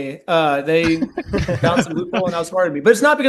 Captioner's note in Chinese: 笑声